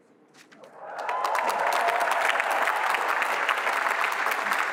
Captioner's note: applause